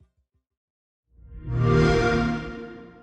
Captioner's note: xbox sound